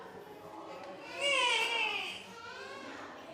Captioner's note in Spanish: el bebé en brazos llora